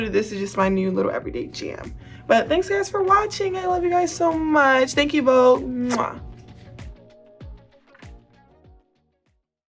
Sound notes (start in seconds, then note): 5.8 Angel smooches; 7.0 upbeat music fades